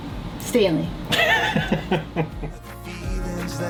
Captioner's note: laughs